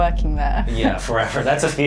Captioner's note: chuckling